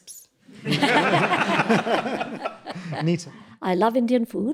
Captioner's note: audience laughs